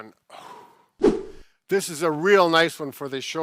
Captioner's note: air whoosh